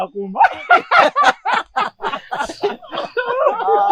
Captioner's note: laughing continues